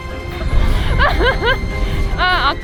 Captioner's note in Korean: 웃음